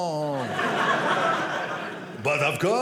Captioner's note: audience laughing